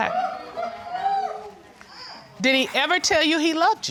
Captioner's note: audience hooting